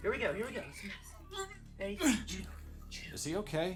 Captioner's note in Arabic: يئن